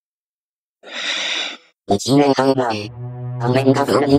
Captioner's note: sigh